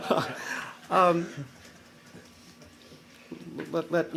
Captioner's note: laughter